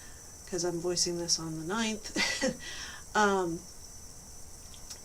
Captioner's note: chuckles